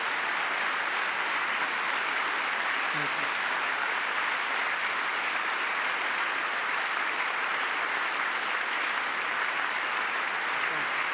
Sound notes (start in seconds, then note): 4.5 applause